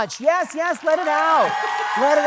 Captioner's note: audience cheering